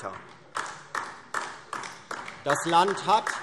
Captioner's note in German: Beifall DIE LINKE